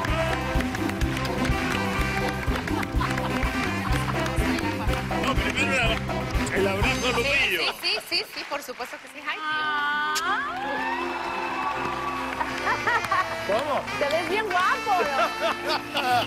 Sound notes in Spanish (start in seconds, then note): 9.7 aplausos